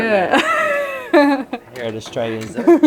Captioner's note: laughing